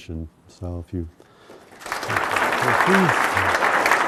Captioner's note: audience Applause